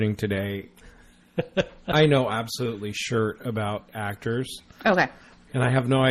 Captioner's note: DJ laughs